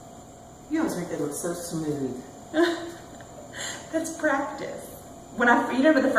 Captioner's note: laughs